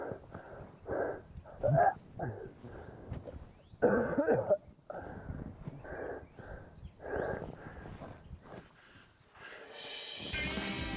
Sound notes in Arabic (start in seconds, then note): 0.0 لهث; 3.8 السعال; 4.8 التنفس بصعوبة